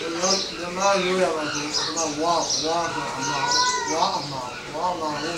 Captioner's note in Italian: parla birmano